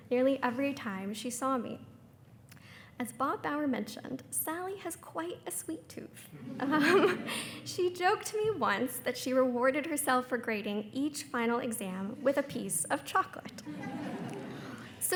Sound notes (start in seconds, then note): 6.4 everyone laughing; 13.6 attendees laughing